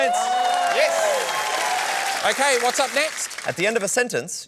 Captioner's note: cheering and applause